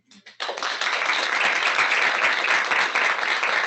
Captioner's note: audience applauds